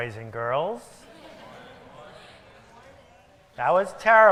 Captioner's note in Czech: Publikum mumlá